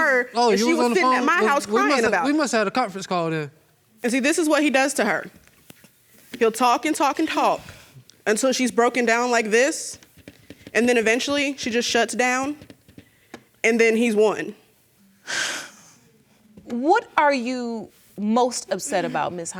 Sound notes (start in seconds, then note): 14.2 sobs